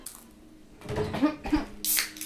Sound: coughing

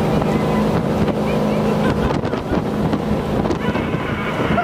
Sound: people laughing

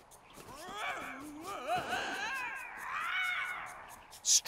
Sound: screaming

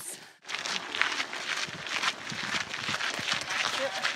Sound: footsteps crunching on gravel

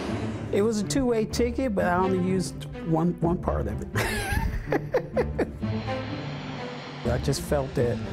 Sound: laughs

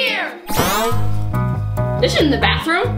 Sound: springy bounce

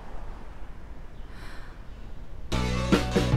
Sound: mom sighing

